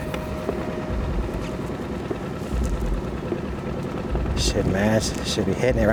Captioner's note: boat engine idles loudly